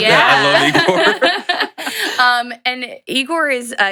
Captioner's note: laughs